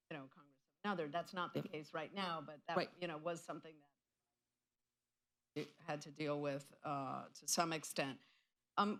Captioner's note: off mic